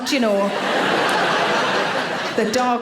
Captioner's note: audience laughing